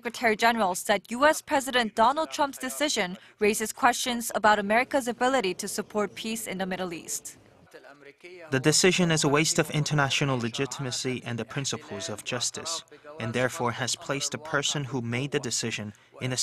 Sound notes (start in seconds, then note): 7.5 Arabic